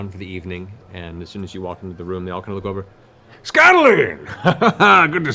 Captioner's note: laughs